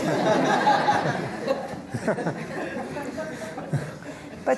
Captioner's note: laughter